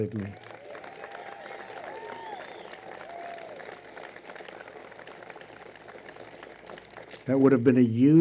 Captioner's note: applause